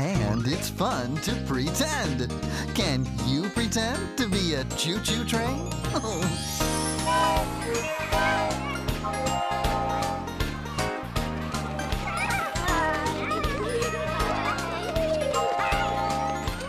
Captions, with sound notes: AND IT'S FUN TO PRETEND! CAN YOU PRETEND TO BE A CHOO-CHOO TRAIN? ( Toot! ) ( Toot! ) ( Playful Chatter & Giggles )